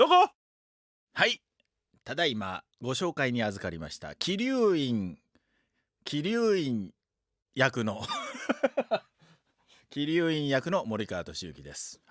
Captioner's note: laughs